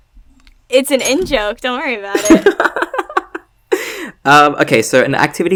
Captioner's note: laughs